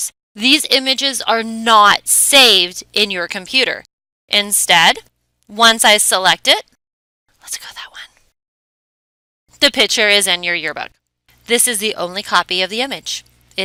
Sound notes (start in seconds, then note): 6.7 whisper